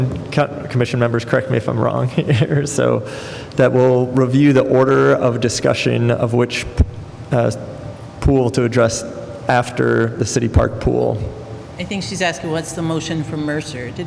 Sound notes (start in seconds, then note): 2.1 laughter